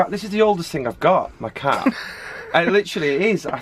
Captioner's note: laughs